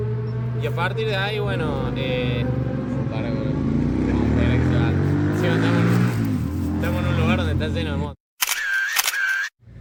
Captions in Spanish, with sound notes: Y a partir de ahí bueno... (sonido de moto acelerando) Encima estamos en un lugar donde está lleno de motos...